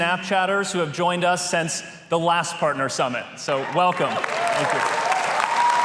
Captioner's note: applause